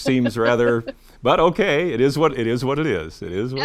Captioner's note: chuckles